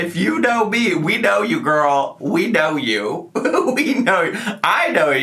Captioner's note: giggles